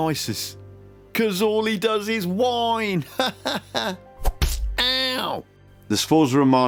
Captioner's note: smack!